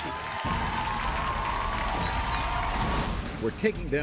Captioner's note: audience applauds